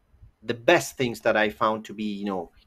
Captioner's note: none